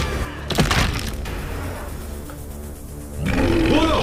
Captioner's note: clattering; growling